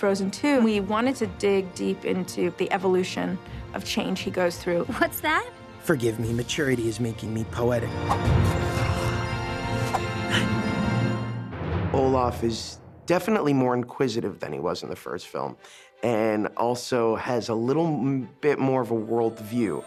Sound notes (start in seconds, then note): 9.9 gasps